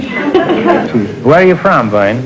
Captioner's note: laughter